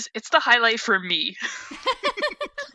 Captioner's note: hosts laugh